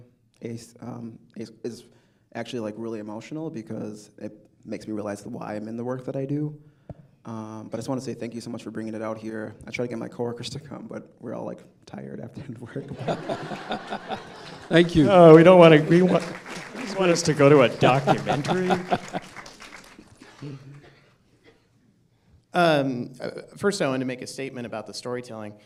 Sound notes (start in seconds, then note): 12.8 laughter; 15.6 applause